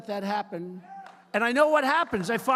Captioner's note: applause